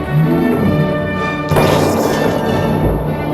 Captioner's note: cannon firing